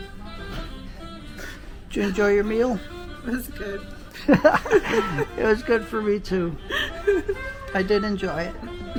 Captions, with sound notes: Did you enjoy your meal? It was good. [ laughing ] It was good for me too. I did enjoy it.